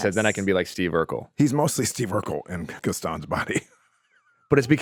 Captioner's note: laughing